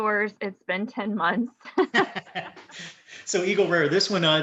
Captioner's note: laughing